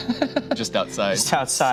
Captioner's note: laughs